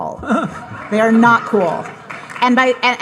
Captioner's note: audience laughing